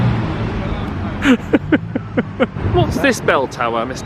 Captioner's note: laughs